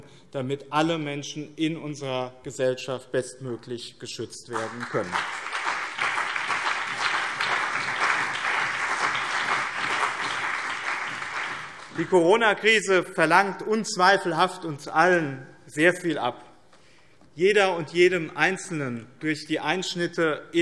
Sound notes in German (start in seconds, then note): 4.5 Beifall BÜNDNIS 90/DIE GRÜNEN, CDU und vereinzelt SPD